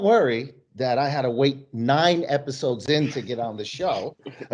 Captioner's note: laughing